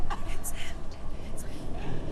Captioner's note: whispering